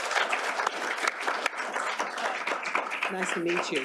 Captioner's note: applause